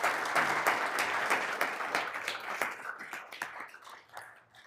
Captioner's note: all applauding